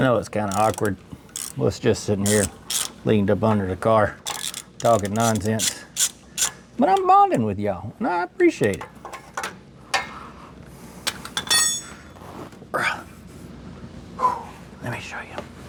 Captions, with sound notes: (Metal Clanking) Phew. I know it's kind of awkward. Let's just sit in here, leaned up under the car, talking nonsense. But I'm bonding with y'all, and I appreciate it. (Metal Clanking) (Grunts) Let me show you.